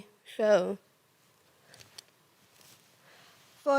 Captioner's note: rustling